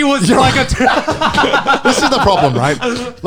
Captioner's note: laughs